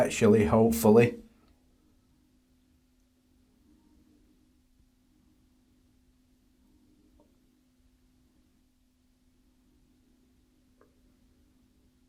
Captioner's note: silence